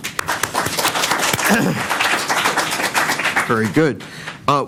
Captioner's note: applause